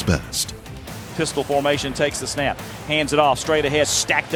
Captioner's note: voiceover